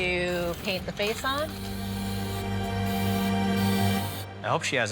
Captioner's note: paint spraying; tense music